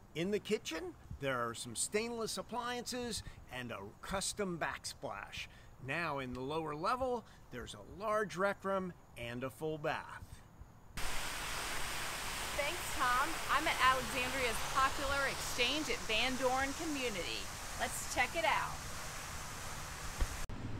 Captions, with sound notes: In the kitchen, there are some stainless appliances and a custom back splash. Now in the lower level, there's a large rec room and a full bath. (water fountain spraying) - Thanks, Tom. I'm an Alexandria's popular Exchange at Van Dorn community. Let's check it out.